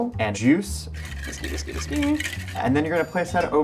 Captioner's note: whisk scraping